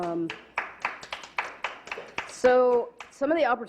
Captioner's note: clapping